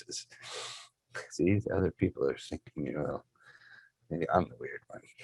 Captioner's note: murmurs